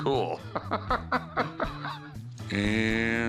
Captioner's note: laughs